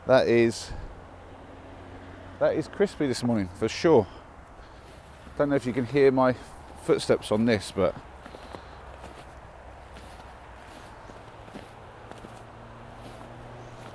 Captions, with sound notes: That is... That is crispy this morning, for sure. Don't know if you can hear my footsteps on this but.... [crunching ice underfoot]